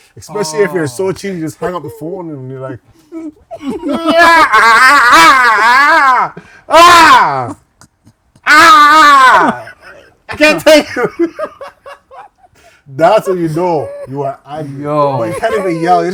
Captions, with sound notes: especially if you're so cheesed, you just hang up the phone and you're like-- [SCREAMING] I can't take it. That's when you know. You are angry. You can't even yell.